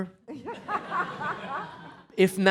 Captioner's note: laughing